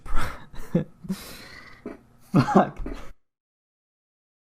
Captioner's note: laughing